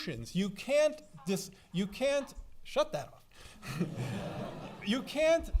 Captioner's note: laughing